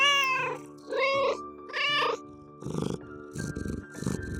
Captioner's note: meow